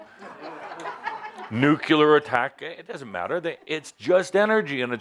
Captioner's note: laughter